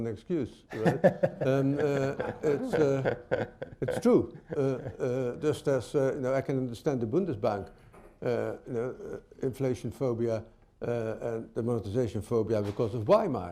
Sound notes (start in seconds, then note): 0.7 laughter